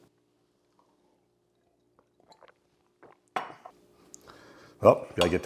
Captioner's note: gulping